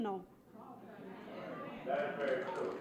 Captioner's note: audience clapping